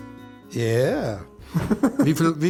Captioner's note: </b> <b>SPEAKING GERMAN